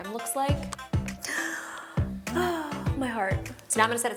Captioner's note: sighing